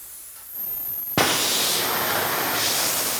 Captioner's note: loud, shimmering hissing